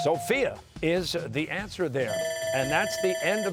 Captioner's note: bell ringing